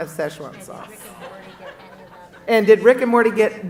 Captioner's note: audience laughing